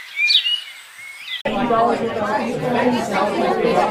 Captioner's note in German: leute reden